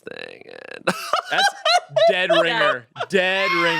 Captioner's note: laughs